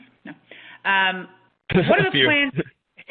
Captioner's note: laughs